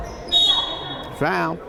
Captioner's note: whistle blowing